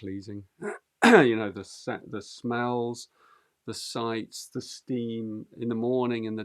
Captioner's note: clears throat